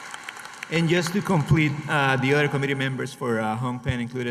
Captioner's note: applause